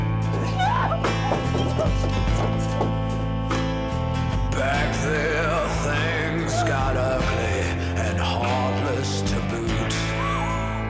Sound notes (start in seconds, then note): 0.3 sobbing